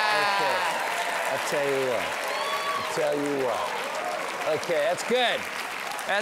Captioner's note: cheers and applause